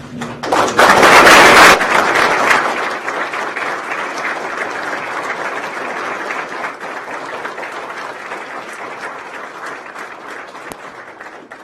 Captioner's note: applause